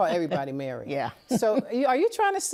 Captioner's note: laughs